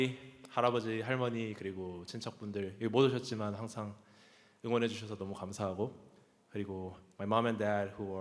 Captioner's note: speaking Korean